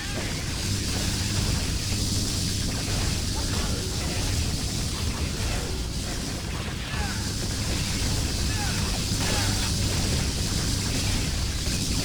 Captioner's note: gunfire